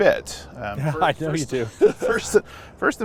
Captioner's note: laughing